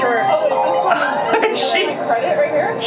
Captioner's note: laughs